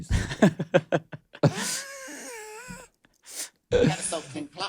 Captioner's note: both laughs